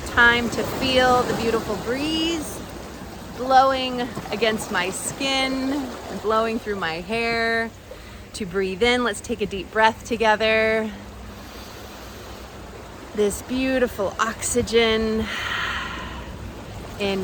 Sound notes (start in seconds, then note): 11.0 inhales deeply; 15.2 exhales